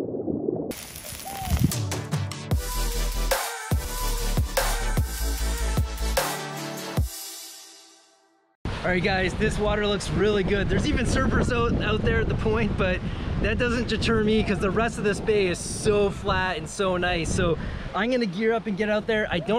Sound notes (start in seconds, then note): 0.7 sizzling; 2.4 techno beat